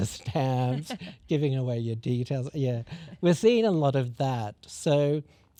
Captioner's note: laughs